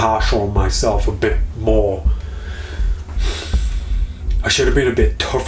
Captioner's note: sighing